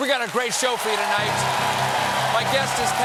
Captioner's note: applause